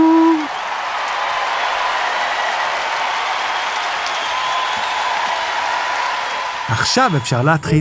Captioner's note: applause